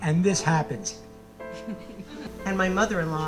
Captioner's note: audience laughing